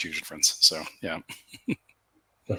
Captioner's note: laughs